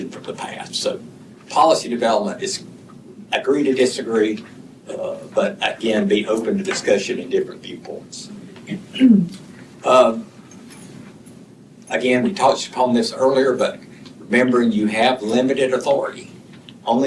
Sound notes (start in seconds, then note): 8.6 clears throat